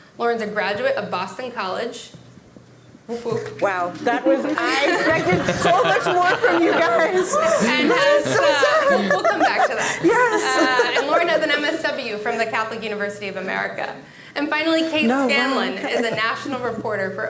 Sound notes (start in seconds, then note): 7.2 audience laughing; 9.3 laughs